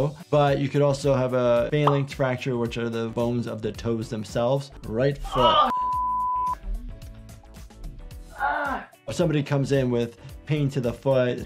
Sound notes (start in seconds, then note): 5.7 beep; 8.3 groans